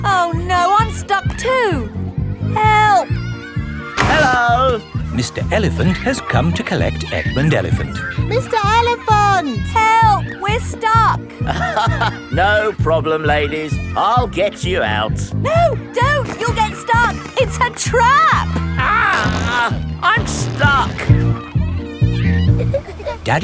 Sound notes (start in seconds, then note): 11.5 chuckles